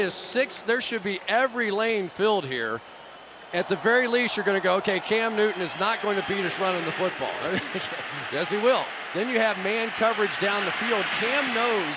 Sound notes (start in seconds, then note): 7.4 chuckles